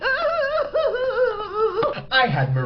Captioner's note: sobbing